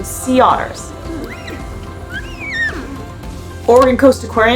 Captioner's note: sea otter vocalizations; background music